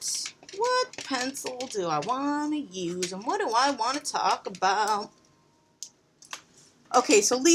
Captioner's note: sing songy